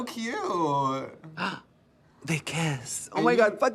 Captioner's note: gasps